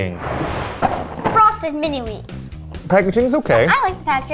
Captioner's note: animated explosion booming; cereal box thudding